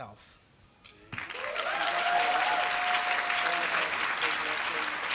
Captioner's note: applause